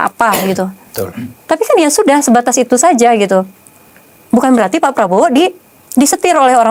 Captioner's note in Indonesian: berdehem